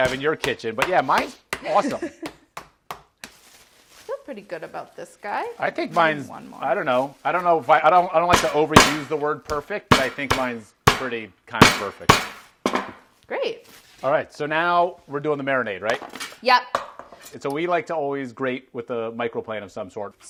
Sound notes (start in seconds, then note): 8.3 pounding